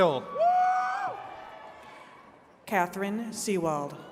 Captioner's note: attendees cheering